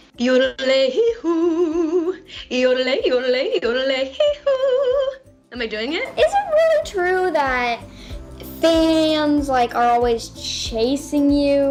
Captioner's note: laughter